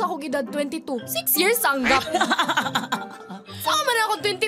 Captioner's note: laughing